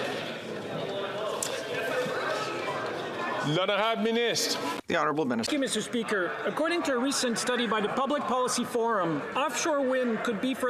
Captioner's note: chatter